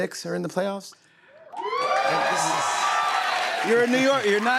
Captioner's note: cheers and applause